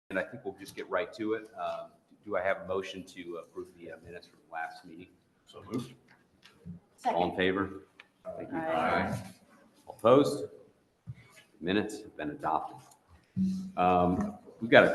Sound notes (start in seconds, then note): 8.3 chorus of ayes